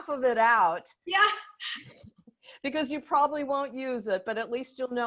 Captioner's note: laughter